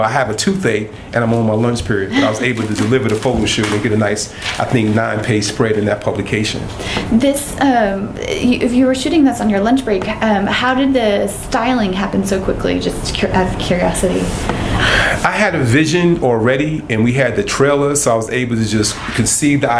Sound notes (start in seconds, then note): 1.8 laughter